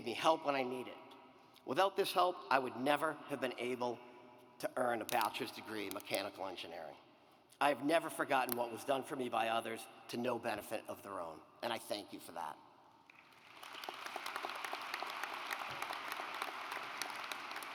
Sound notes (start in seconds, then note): 13.1 audience applauds